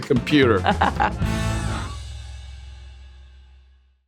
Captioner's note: Priyanka laughing